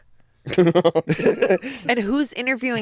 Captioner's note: laugh